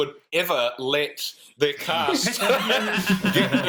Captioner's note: laughter